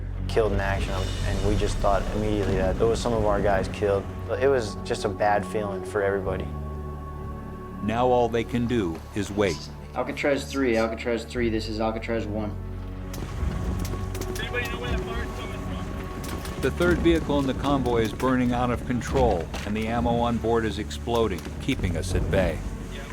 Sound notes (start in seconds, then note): 7.9 voiceover; 10.0 marine on radio; 13.2 fire crackling; 16.8 voiceover